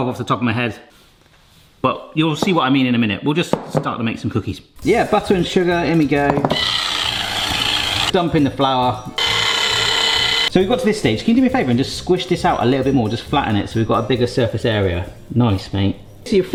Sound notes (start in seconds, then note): 6.5 whisk whirs; 6.6 upbeat music; 9.2 whisk whirs